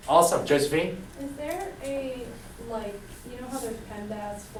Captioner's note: voiceover